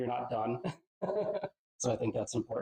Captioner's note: laughs